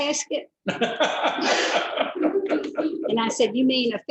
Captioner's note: laughter